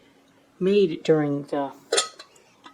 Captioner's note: clank